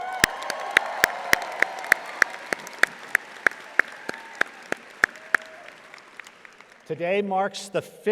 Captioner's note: audience applauding